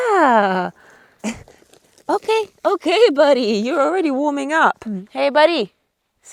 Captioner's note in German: lacht